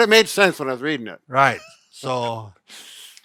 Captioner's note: laughing